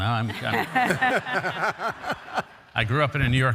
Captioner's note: all laugh